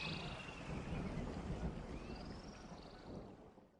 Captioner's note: air whooshing